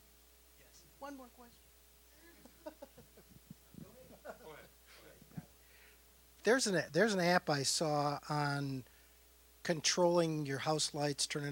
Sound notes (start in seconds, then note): 2.2 laughing